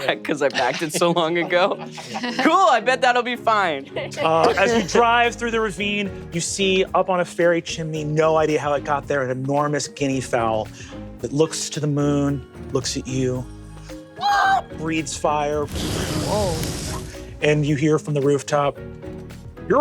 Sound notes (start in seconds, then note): 13.5 squawks; 15.6 fire whooshing